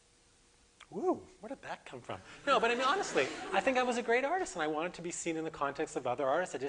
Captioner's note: audience: Laughter